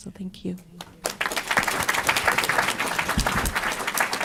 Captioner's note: applause